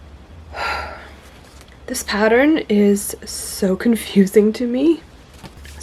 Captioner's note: composing sigh